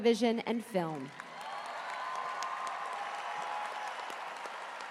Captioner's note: cheers and applause